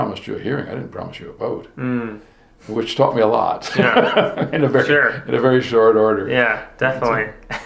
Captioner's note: both chuckling